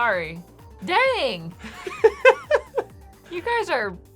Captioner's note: laughing